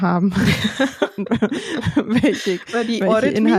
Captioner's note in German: lachen